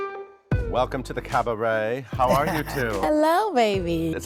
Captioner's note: Billy laughs